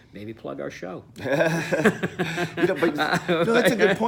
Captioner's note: both laugh